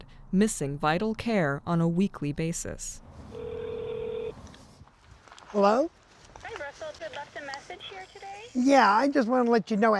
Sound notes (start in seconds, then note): 3.3 phone ringing; 6.4 voice on Other End of Phone